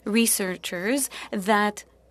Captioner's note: speaking French